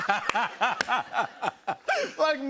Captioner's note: laughter